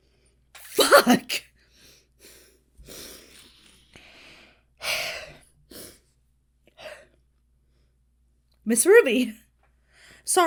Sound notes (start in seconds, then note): 4.8 Hana sighs